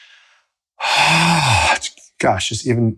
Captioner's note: deep breath